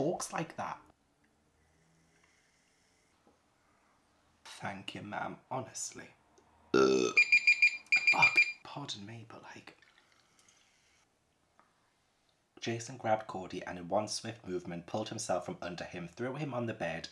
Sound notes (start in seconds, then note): 6.7 burp